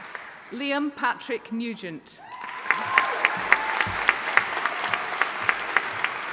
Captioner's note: audience applauding